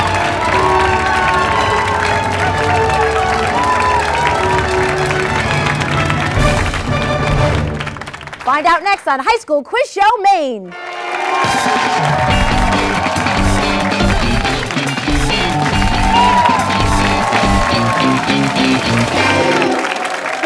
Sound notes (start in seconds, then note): 8.7 funky bass music; 12.7 applause